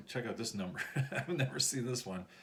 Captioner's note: chuckles